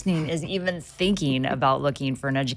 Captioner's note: chuckling softly